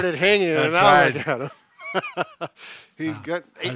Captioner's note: laughs